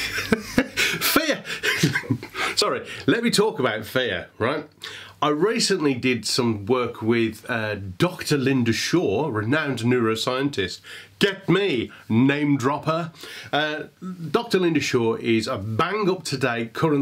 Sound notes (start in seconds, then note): 0.0 chuckles